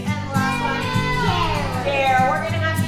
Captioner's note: students shouting